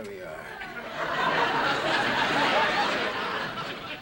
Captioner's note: audience laughing